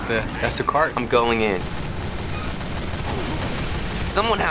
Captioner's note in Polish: szybka wymiana ognia